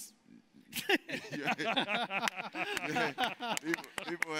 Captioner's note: laughs, applauding